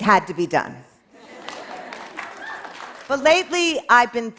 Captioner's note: applause